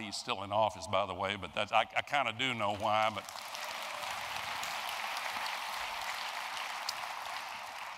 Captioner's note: applause